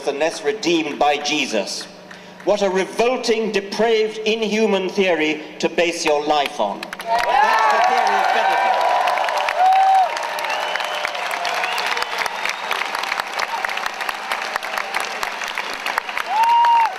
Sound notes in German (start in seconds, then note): 9.1 Jubeln